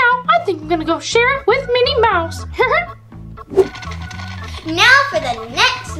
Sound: laughs

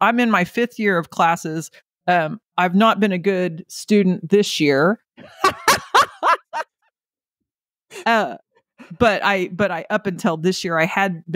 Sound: laughing

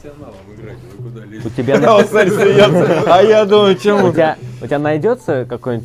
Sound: laughing

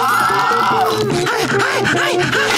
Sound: panting

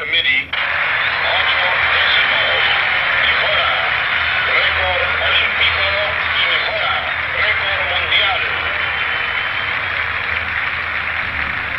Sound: crowd Cheering!

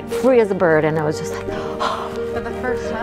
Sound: sighs

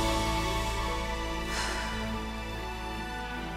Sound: stirring music; exhales

